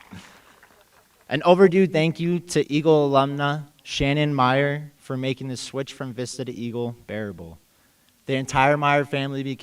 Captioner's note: applause